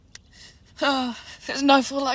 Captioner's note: sighs